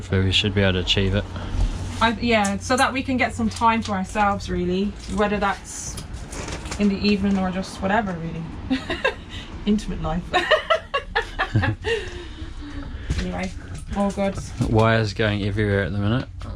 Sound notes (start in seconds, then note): 10.3 laughing